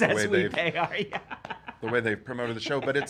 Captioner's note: laughs